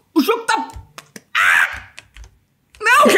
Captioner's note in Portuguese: Ahhh!